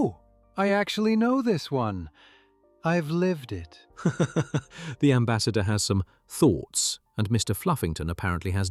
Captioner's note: laughs